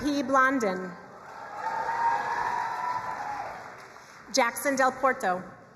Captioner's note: crowd cheering and applauding